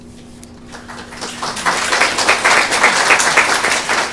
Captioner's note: applause